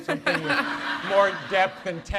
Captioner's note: audience laughs